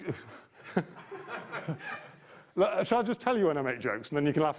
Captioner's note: audience member laughing breaks